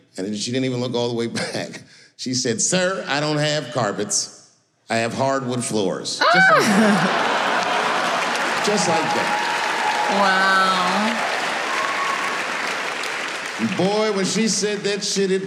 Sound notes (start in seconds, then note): 6.3 audience laughing